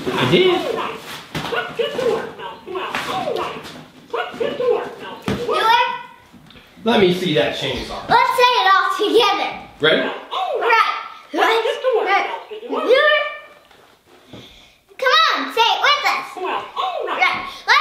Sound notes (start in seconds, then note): 1.7 Mickey voice talking